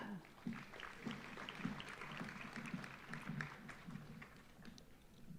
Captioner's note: audience applauding